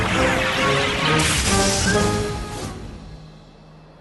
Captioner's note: thunder crashes